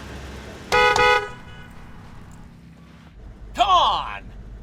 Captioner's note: horn honking